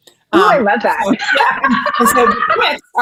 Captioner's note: laughing